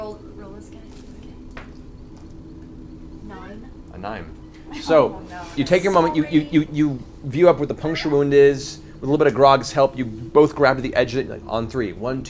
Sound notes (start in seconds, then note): 4.7 laughs